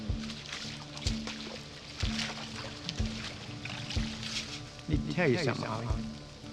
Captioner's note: water splashing; light music